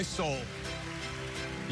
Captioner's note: applauds